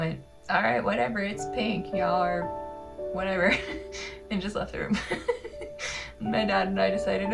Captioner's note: laugh